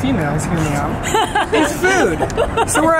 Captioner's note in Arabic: يضحك